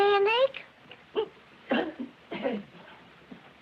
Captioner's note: clears throat